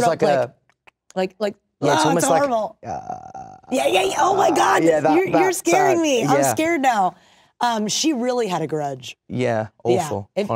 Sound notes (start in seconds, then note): 2.8 throaty groan